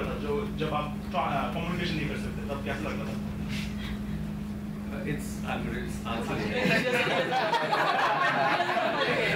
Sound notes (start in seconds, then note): 6.5 members laugh